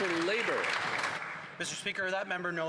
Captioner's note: some Applause